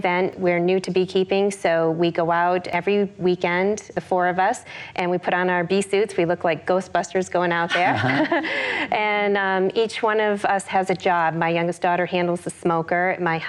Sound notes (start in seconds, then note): 7.7 laughs